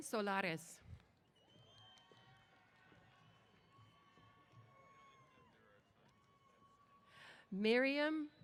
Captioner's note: cheers